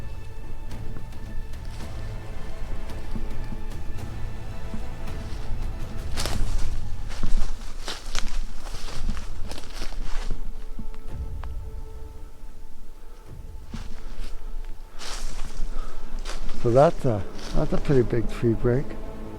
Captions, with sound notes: (suspenseful music) (twigs snapping) So that's a pretty big tree break.